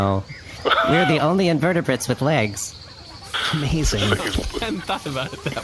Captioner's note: laughing